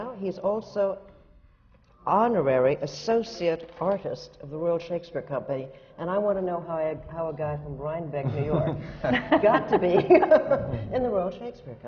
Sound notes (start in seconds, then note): 7.8 laughter from the panel